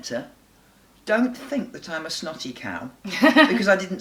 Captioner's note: laughs